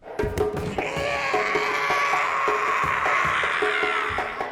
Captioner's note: drumming music; shrieking